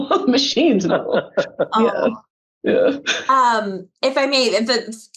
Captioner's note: panelists laughing